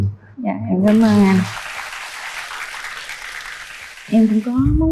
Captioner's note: applause